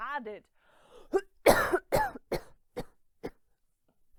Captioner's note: coughing